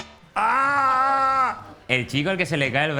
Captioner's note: shouts